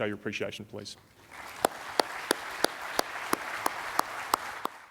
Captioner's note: audience applauds